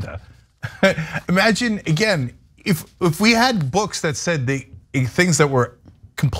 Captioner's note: laugh